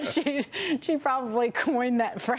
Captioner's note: laughter